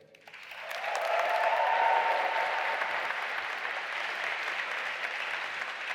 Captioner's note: audience applauding and cheering